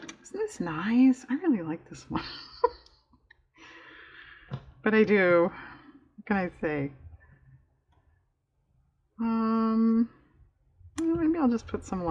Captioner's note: laughs